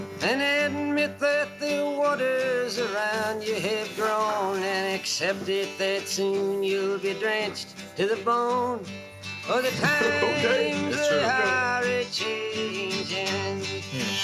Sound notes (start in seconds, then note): 9.4 chuckles; 13.3 harmonica riff